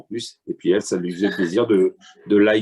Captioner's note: laughter